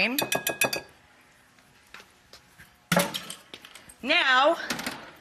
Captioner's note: glass bowl tinkles